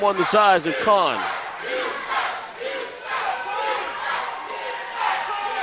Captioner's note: crowd